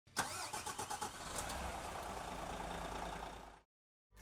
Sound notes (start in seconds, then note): 0.2 engine roars